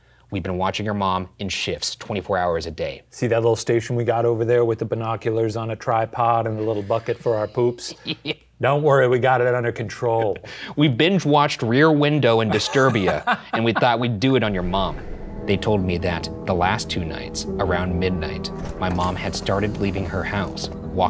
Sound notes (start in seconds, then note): 6.6 laughs